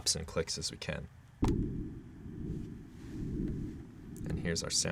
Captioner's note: electronic whirring